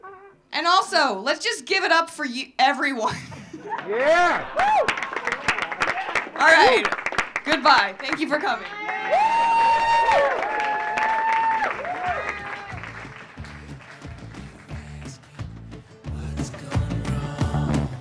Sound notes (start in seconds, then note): 3.3 audience cheering; 3.3 audience clapping; 8.8 audience cheering; 8.8 audience clapping